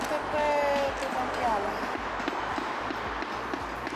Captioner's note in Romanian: Aplauze